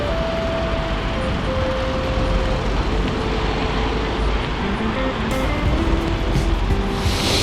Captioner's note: wind Blowing